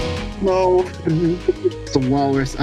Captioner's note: freed giggling noises